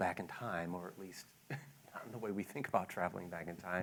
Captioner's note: laughs